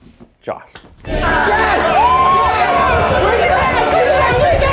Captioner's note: group cheers